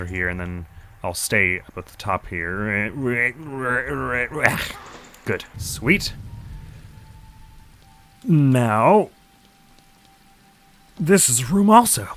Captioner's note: straining noises